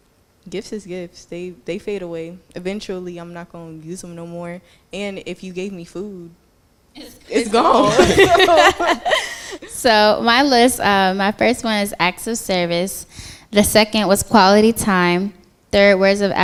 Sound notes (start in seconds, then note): 7.4 laughter